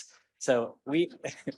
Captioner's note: laughter